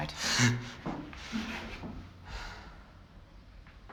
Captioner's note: chuckles